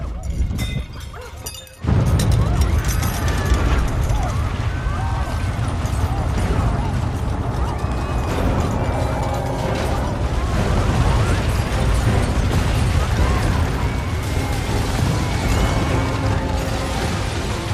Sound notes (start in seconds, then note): 1.1 smashing crockery; 2.4 screaming